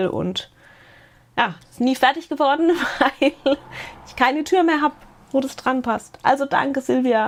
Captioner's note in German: Gelächter